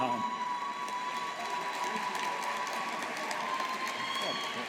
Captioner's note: audience applauding